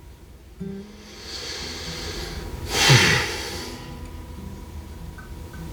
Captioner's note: deep breath